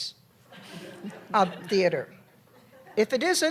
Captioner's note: laughter